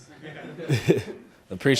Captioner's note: all laughing